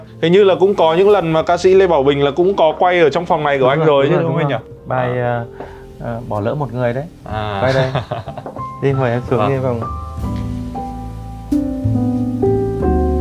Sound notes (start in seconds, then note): 7.4 laughing